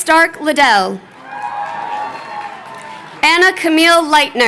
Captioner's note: crowd cheering